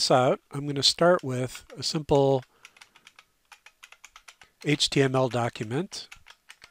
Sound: typing

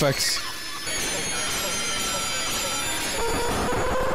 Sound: screeching sounds continue to continue; actually demonic screeching sound

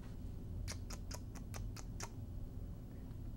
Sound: kissing sounds

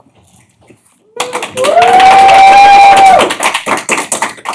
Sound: cheering

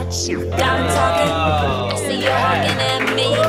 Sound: cheering

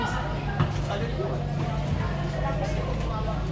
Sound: chatting

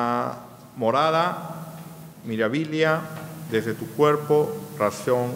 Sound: speaking in a foreign language

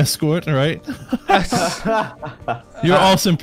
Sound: laughter

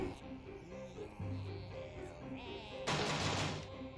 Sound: zombies chanting

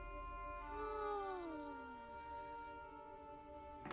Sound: yawns

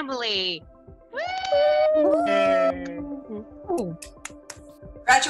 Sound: applauding loudly

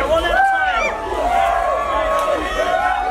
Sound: crowd cheering

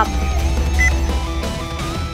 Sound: dialling

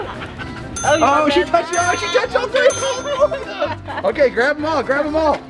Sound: laughter

